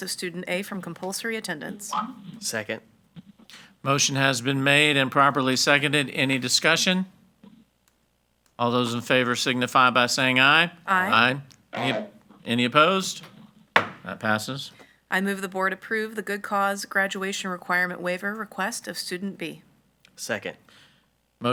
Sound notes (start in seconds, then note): 13.2 hammer slamming